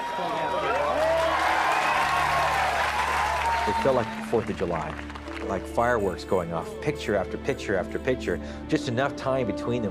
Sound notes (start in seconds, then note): 2.9 murmurs; 6.0 crowd cheering